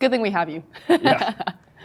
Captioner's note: laughs